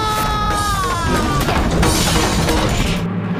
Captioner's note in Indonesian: berteriak